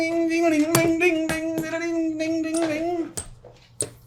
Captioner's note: much background squeaking